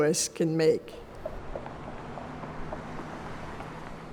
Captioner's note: car engines revving